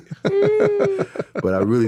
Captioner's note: laughing